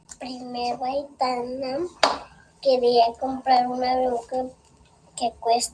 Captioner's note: speaking Spanish